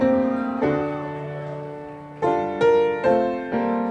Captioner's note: audience cheering